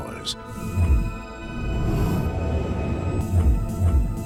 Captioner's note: whooshing